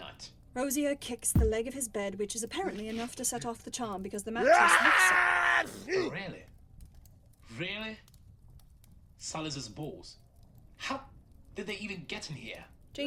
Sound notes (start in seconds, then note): 1.3 thud; 5.3 “achoo” sneeze